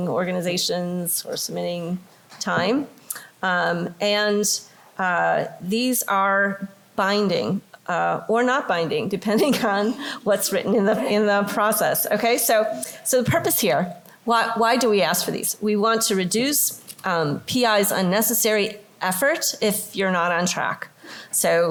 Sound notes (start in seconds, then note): 11.0 laughter